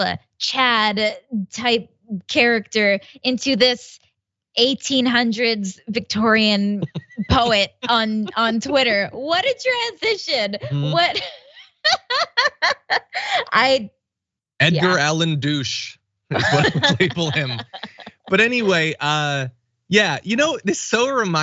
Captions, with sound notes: type character into this 1800s Victorian poet Twitter. What a transition. [LAUGH] >> Edgar Allan douche is what I would label him. But anyway, yeah, this so reminds me of, I forget what the reason was, but